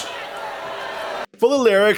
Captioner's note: crowd boos harder